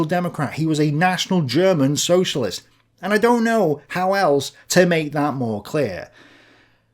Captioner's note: German